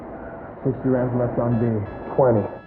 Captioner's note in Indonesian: Bip